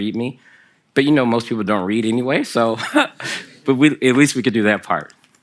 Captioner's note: laughter from the audience